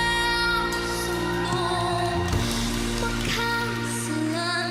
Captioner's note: audience cheers